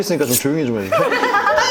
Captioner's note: politely